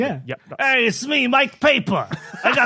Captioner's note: thick gumshoe accent